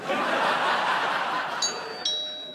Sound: doorbell rings

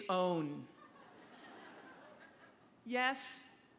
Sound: laughter

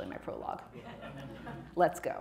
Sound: audience laughing

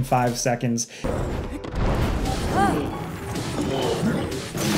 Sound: monster grunting

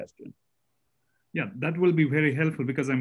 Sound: calm Voice

